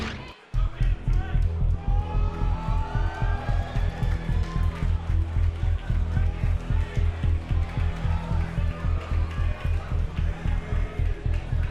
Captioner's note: crowd cheering